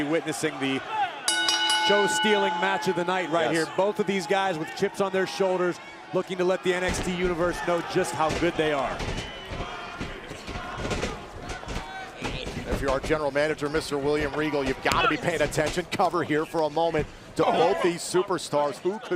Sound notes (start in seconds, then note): 4.1 bell ringing; 11.3 crowd cheering